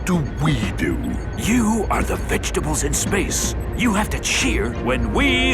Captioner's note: whispering